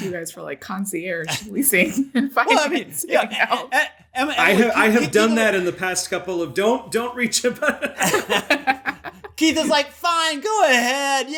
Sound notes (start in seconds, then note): 7.0 laughter